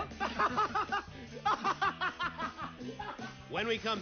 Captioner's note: laughs